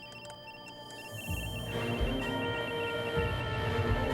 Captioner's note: alarm